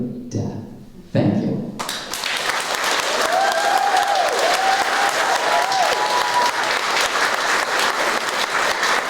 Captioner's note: applause